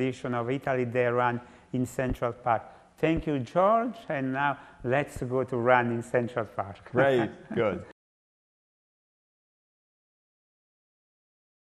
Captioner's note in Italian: risate